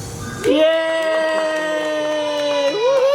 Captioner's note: cheering